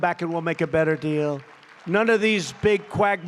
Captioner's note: applause